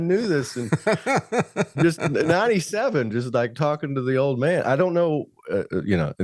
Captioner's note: laughing